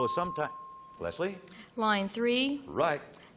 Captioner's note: ping